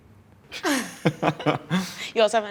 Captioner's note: laughing